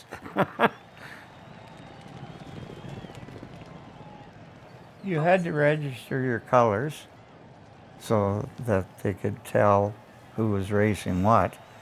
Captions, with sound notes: (laughter) (crowd cheering) You have to register your colours so that they could tell who was racing what.